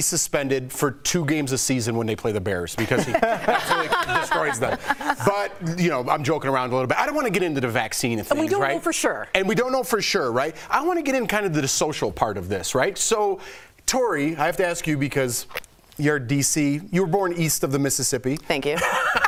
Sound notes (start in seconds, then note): 2.8 laughter